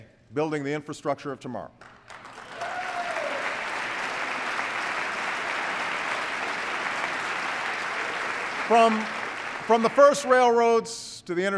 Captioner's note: applause